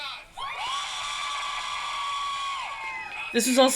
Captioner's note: loud cheering